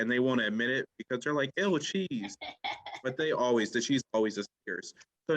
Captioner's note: laughing